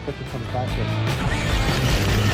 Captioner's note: tires whirring; upbeat music